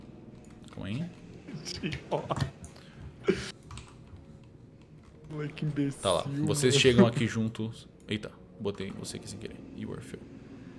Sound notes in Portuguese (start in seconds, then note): 1.8 risos